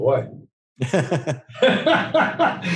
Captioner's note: laughing